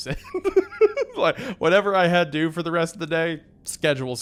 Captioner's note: laughs